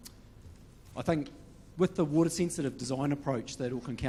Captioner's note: none